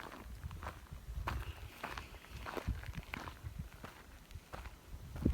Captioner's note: feet crunching on gravel and dead grass